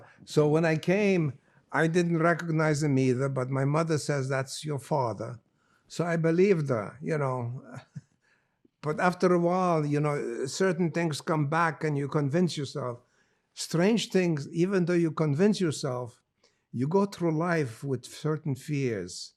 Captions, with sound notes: So when I came, I didn't recognize him either. But my mother says, "That's your father." So I believed her, you know. [LAUGHING] But after a while, you know, certain things come back and you convince yourself strange things. Even though you convince yourself, you go through life with certain fears.